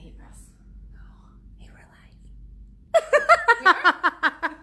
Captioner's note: laughs